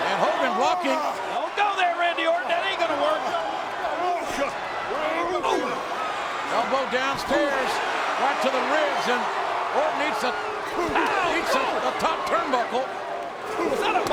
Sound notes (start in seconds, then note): 4.9 wrestlers grunting